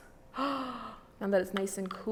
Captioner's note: gasps